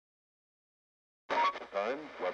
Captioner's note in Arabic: طقطقة ثابتة في الراديو